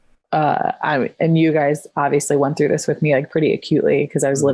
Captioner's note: stutters